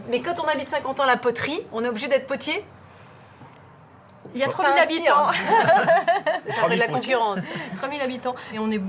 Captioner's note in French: rires